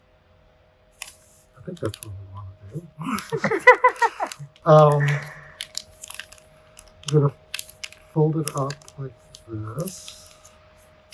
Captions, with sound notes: I think that's what we want to do... [LAUGH] Um... I'm gonna fold it up like this.